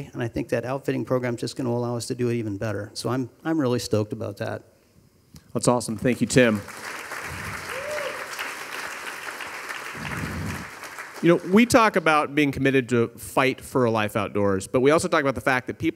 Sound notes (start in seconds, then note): 6.0 audience applauding; 6.7 audience cheering